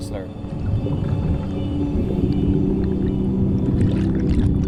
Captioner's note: water bubbling